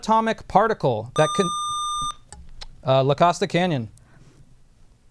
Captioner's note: buzzer